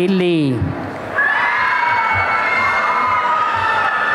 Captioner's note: applause and cheering